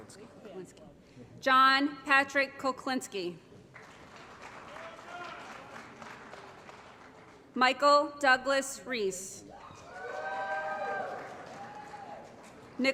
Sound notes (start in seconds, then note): 3.7 applause; 9.5 applause & Cheering